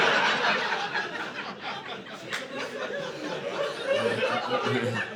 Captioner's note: audience laughing